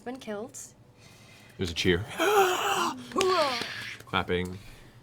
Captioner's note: crowd cheers